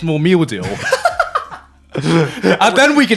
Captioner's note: laughing